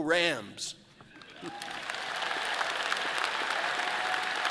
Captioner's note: all applauding